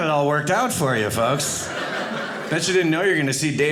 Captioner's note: audience laughing